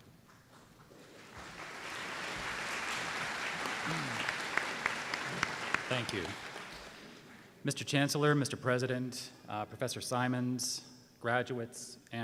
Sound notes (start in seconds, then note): 1.0 applause